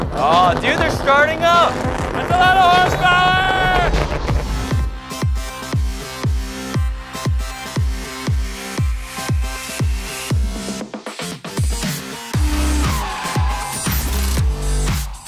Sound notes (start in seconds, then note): 0.0 engines rev; 5.2 upbeat electronic music; 12.3 brakes screech; 14.1 keys click